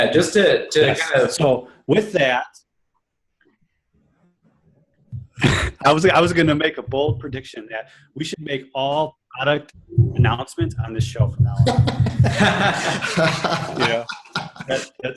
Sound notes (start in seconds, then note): 5.2 laughs; 11.6 everyone laughs